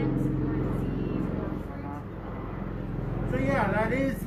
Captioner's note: helicopter intensifies still further